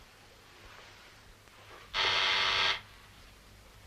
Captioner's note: buzzer